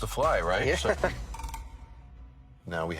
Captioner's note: laughing